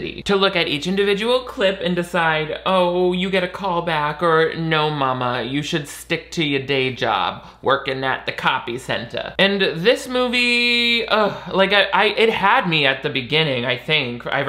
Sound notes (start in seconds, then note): 10.7 groans